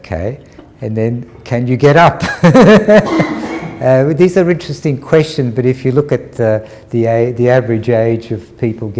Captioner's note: laughter